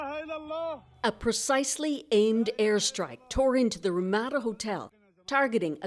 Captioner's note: speaking alternate language